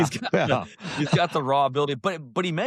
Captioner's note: laughter